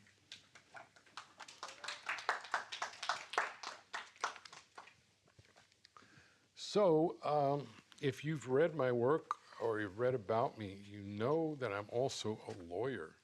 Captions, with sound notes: [audience applauding] So, if you've read my work or you've read about me, you know that I'm also a lawyer.